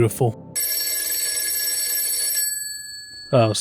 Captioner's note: phone Ringing